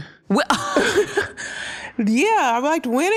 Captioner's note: laughter